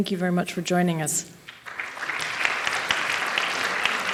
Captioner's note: applause